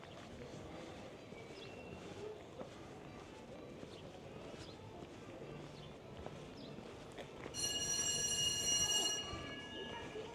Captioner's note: bell ringing